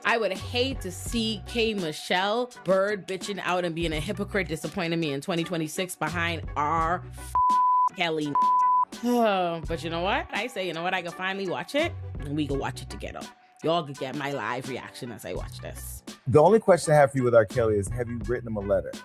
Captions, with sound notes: I would hate to see K. Michelle bird bitching out and being a hypocrite disappointed me in 2026 behind R. (beep) Kelly. (beep) But you know what? I say, "You know what? I can finally watch it, and we can watch it together." Y'all can get my live reaction as I watch this. The only question I have for you with R. Kelly is have you written him a letter?